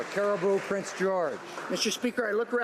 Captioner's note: some Applause